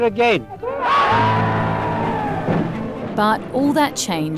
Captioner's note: cheering